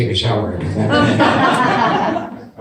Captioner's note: audience laughs